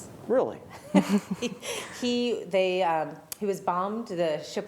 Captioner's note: laughter